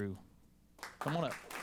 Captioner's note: applause